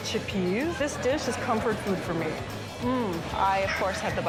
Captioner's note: hums